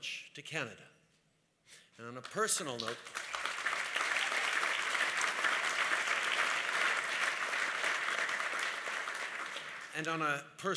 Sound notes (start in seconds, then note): 7.6 applause